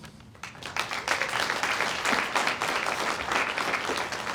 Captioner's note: audience applauds